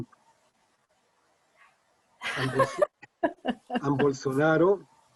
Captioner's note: laughs